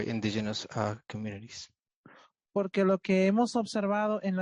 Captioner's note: speaking Spanish